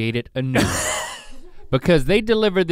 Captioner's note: Rhett laughs